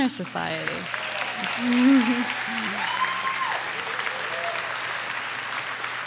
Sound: audience cheers and applauds

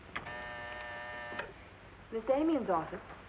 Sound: phone buzzes

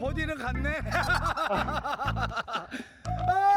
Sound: evil laughter

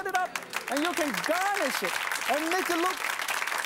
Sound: audience applauds

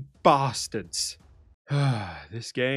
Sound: sigh

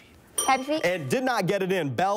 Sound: bell rings

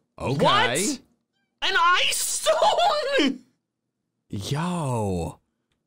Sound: laughs

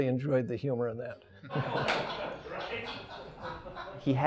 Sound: all laugh

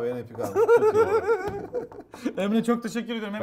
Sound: giggles

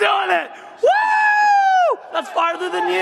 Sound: whooping

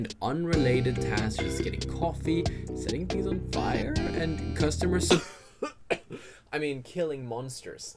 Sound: coughing

